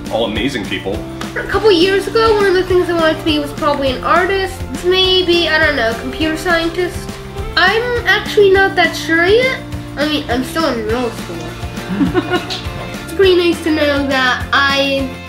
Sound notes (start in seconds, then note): 11.8 laughs